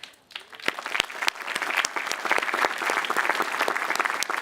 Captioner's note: audience applauding